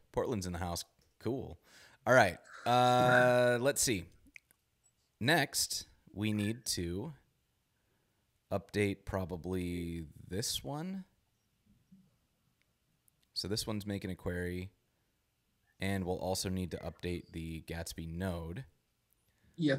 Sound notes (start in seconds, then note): 2.5 laughs